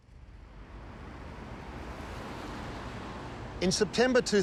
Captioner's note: traffic rumbling